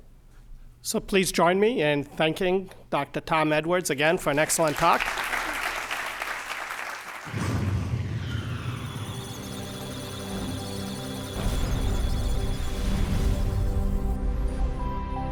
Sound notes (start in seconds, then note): 4.3 applause; 8.8 musical tones; 9.0 electronic sounds of data